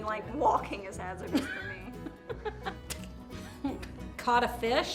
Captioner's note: laughs